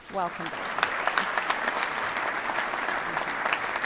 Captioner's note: applause